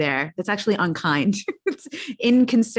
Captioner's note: laughs